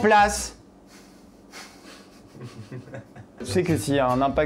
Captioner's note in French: rires légers